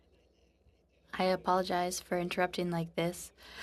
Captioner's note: speaking French